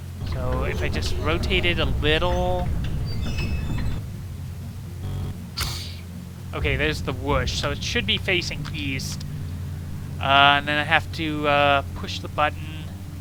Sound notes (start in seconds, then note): 5.5 whoosh